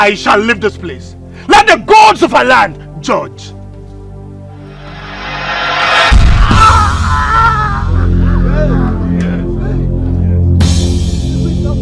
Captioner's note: screaming